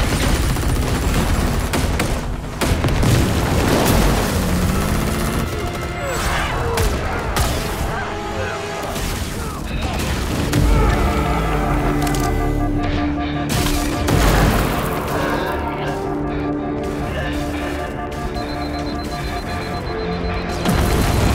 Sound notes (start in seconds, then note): 11.8 HUD alarm beeps; 18.1 alert intensifies